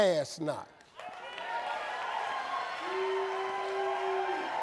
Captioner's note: audience cheering